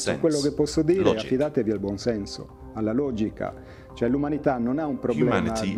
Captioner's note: speaking in foreign language